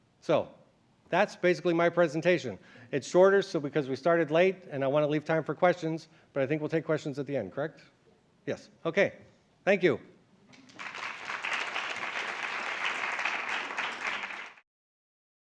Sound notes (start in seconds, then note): 10.5 applause